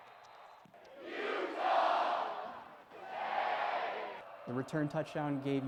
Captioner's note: "utah state" chant